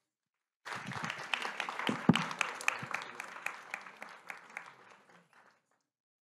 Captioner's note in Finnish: aplodit